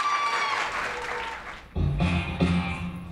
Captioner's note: audience applauds and cheers; energetic music